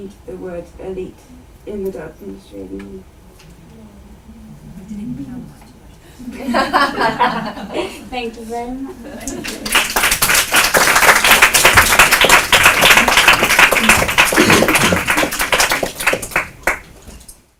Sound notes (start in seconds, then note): 5.0 audience murmurs break into laughter; 13.6 applause